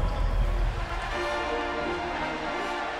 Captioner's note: fanfare and cheering